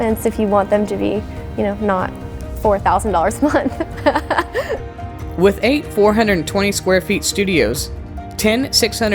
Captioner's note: laughter